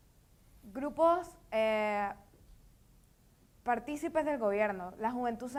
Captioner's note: speaking in foreign language